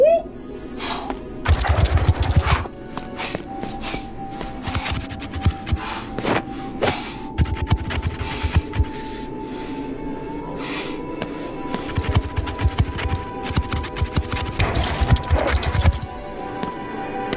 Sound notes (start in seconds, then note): 1.9 scorpions scurry